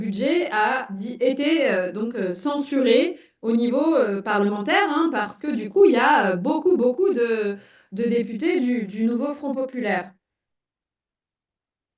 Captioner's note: speaking in French